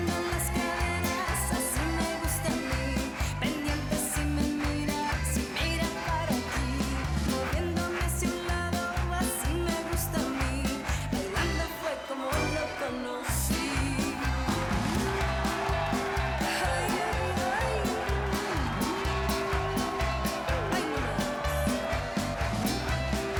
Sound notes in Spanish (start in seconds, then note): 16.8 aplausos; 18.6 aclamaciones